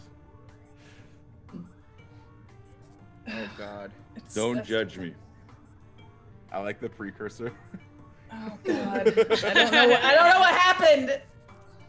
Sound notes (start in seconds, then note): 8.5 laugh